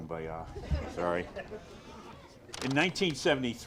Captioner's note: audience laughs